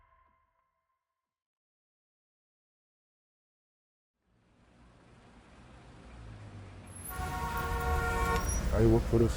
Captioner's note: tense music; horn honking